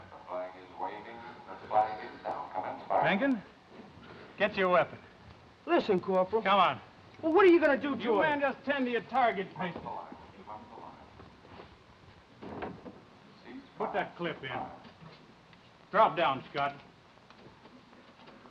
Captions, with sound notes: - [Voice On Loudspeaker] The flag is waving, the flag is down, commence firing. Manken, get your weapon. - Listen, Corporal. - Come on. - Well, what're you gonna do to him? - You men just tend to your target. - [Voice On Loudspeaker] Cease fire. - Put that clip in. Drop down, Scott.